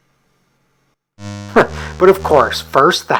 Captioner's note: chuckles